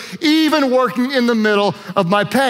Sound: none

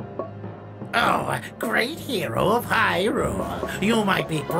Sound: sarcastically

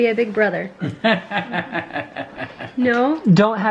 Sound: laughing

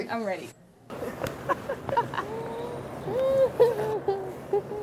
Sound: both laughing

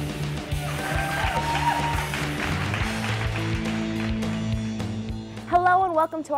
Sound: clapping and Cheering

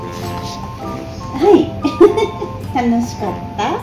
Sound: laughs

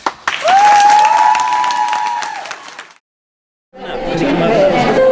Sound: audience applauding; overlapping chattering

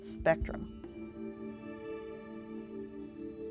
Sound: whispering

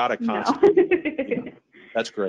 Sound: chuckling

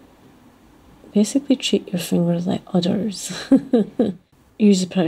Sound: laughs

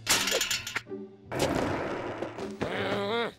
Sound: grumbles

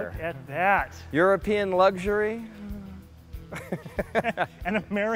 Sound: laughing

